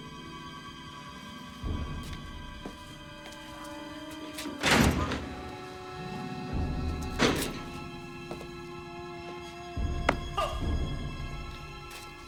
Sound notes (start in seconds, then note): 4.4 door Clanking Shut; 10.3 grunts